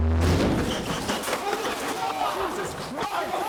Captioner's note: loud bang